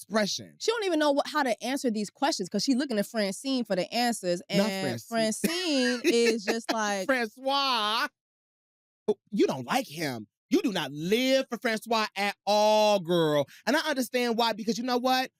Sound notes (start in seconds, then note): 5.3 laughs